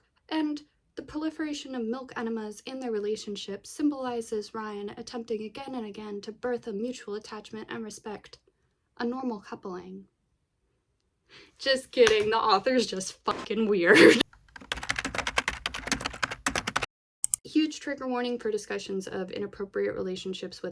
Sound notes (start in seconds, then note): 14.2 keyboard typing